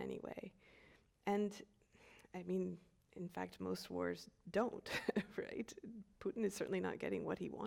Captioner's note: chuckles